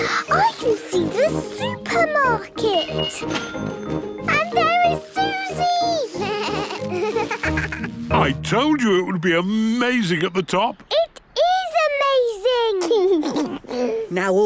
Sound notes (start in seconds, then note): 0.0 children laughing; 3.2 cash register dinging; 6.0 bleating, laughing; 12.8 George giggles